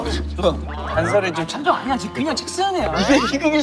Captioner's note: murmuring